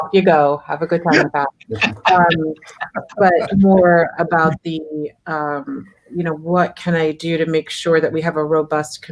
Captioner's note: speaker far from mic